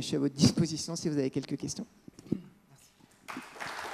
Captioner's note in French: applaudissements